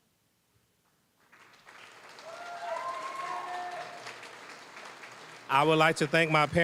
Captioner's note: cheering, applause